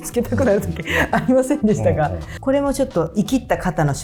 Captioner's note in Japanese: 笑い